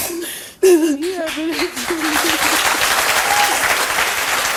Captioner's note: audience applauds